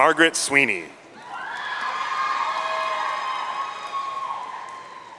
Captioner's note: audience cheering